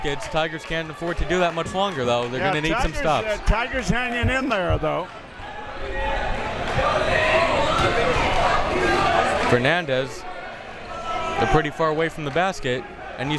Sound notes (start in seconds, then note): 5.7 crowd members shouting